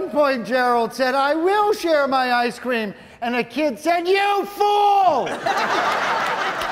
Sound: audience laughing

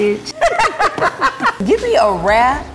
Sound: laughing

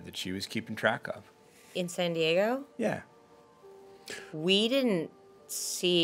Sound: none

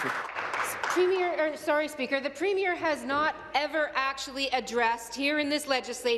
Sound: applause

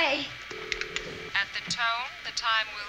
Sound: on phone

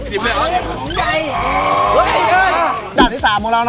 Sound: roars

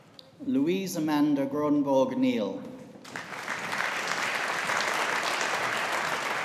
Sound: audience applauding

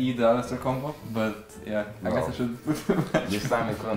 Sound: laughs

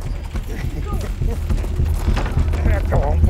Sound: grunting; chuckling

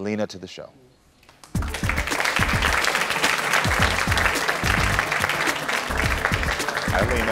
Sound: audience clapping; upbeat music

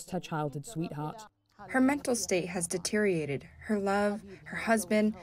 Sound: through translator

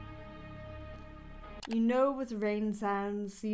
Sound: lonely music; mouse clicks

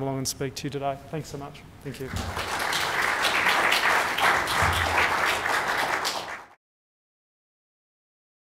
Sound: clapping

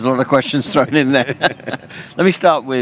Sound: laughing

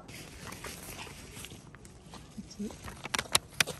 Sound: rustle

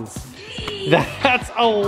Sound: laughs

